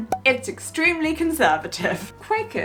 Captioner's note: air popping